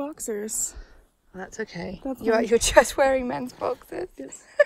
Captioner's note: laughs